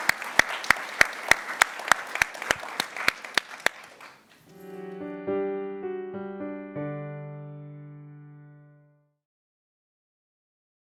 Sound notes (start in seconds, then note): 4.9 applause